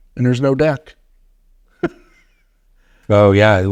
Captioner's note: chuckling